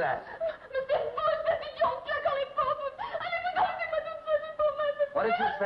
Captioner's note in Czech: Mluví francouzsky